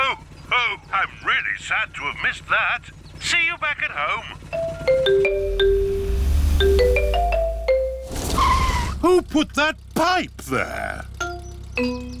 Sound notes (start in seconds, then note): 8.4 tires screech